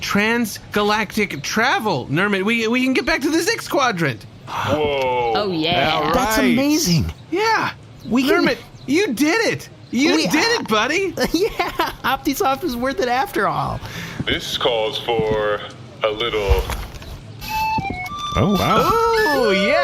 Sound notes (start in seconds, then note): 10.0 laughing; 17.4 flute plays